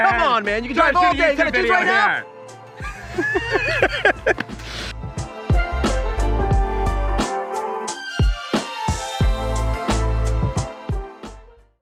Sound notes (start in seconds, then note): 2.8 laughing; 5.3 playful music